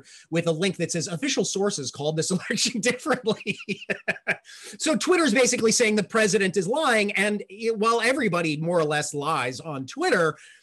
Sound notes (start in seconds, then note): 2.8 laughs